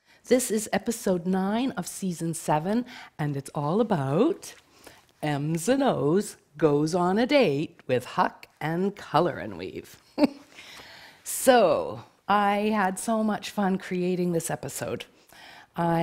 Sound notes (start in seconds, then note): 10.0 chuckling